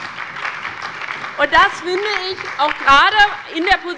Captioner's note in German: Beifall bei der LINKEN und der SPD